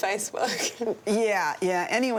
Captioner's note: laughs